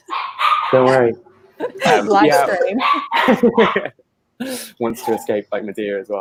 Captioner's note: laughs